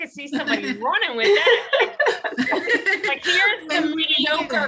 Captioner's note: laughter